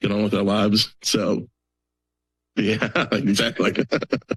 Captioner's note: laughs; laugthers